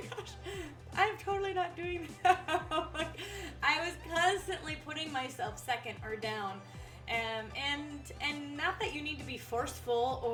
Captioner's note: laughs